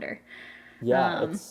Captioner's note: laughs